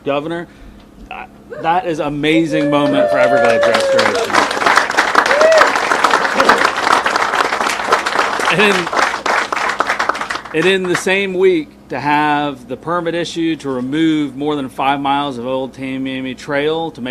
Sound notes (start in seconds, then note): 4.0 people applauding